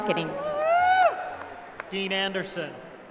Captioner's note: applause